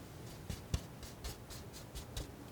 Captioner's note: scratching